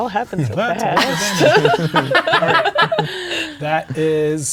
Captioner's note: players laughing